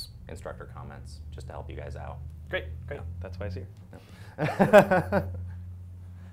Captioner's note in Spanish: risas